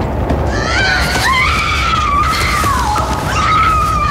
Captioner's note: screaming